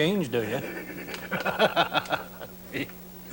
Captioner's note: laughs